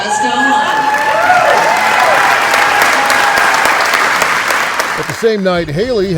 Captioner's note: audience clapping and cheering